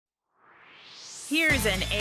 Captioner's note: swoosh